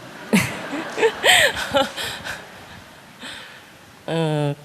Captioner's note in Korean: 질문자 웃음